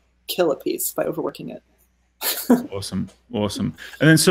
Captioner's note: laughing